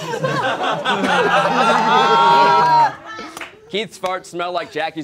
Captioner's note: all laughing